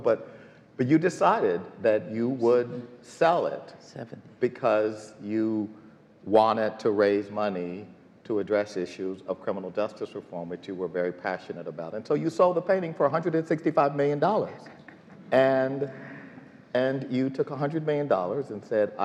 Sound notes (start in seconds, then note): none